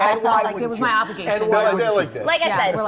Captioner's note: laughter